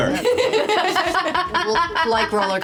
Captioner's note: laughing